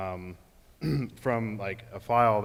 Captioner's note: clears throat